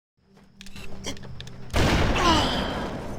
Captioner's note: scope zooms; gun fires